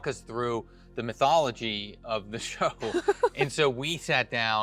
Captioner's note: chuckles